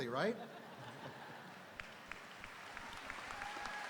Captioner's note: audience laughing; audience applauding; audience cheering